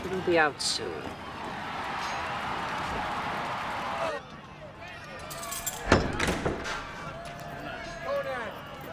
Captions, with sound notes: - He will be out soon. (heavy door opening)